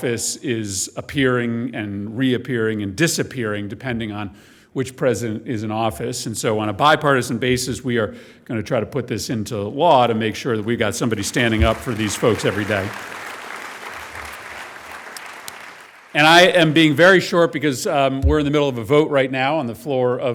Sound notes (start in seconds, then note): 15.0 applause